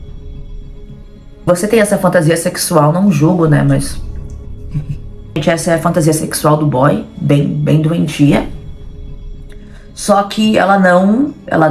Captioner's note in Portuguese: risos